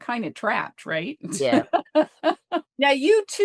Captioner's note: laughs